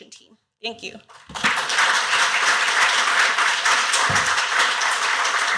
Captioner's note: applause